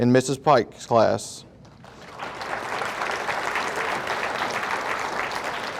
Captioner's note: audience applauding